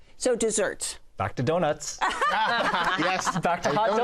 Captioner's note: laughter